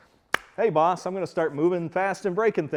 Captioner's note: claps hands